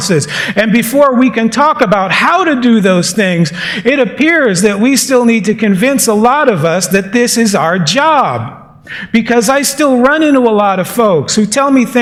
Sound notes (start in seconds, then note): none